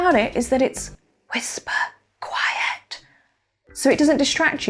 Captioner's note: whispers